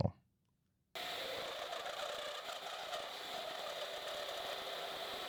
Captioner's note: machine whirring